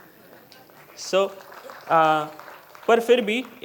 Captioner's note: applause